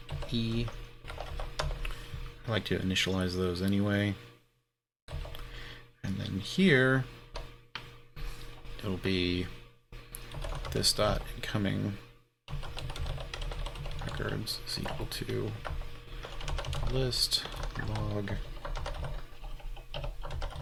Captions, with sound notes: He liked to initialize those anyway. And then here, there'll be this thought and coming (keyboard keys clanking) occurrence, sequel to list log E.